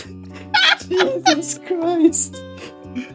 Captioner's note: laughing